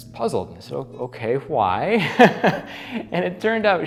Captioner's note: laughs